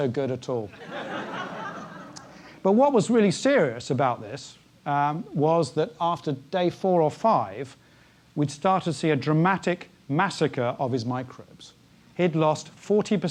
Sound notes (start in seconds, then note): 0.8 laugh